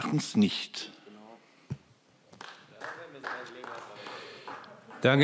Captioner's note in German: Vereinzelter Beifall CDU